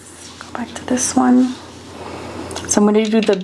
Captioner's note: brushes whirring